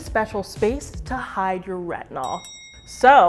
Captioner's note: bell dings